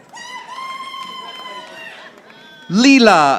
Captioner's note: audience applauding